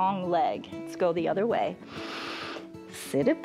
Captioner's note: exhales; inhales